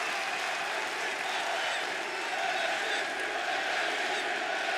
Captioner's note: chants "NXT"